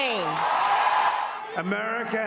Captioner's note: cheering